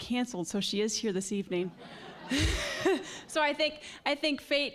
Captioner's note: all laughing